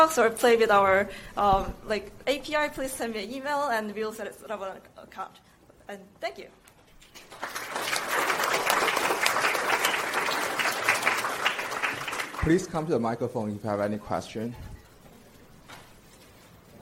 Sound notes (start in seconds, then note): 7.1 audience applauds